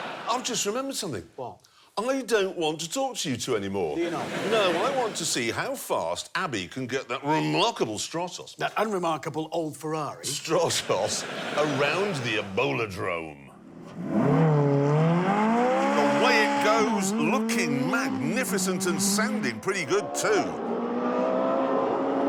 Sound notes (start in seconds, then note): 13.8 engine roaring; 20.6 roaring